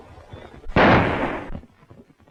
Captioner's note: gunshot